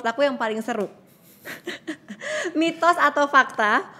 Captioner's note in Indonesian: tertawa